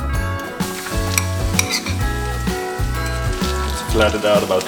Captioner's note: oil sizzling